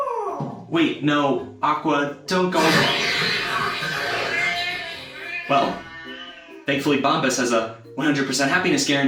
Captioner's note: growling and ripping